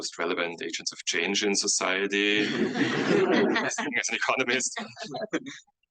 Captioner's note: audience laughs